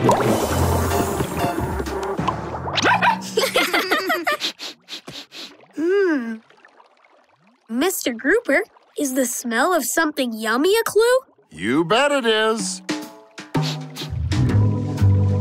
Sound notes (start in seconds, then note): 2.8 laughing; 4.3 sniffing